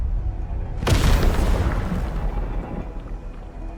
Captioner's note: boom